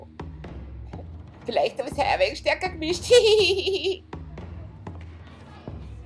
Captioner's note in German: Hildegard lacht; lacht